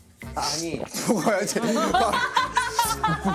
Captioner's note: gulp